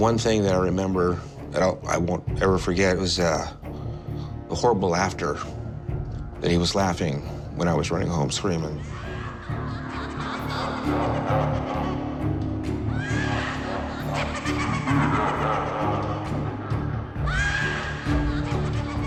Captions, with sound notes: The one thing that I remember that I won't ever forget was the horrible laughter, that he was laughing when I was running home screaming. (Laughing)